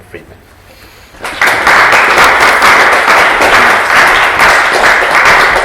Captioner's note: applause